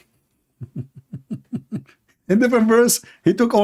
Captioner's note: laughing